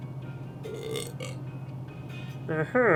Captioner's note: burping